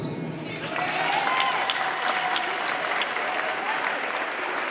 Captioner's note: audience cheers and applauds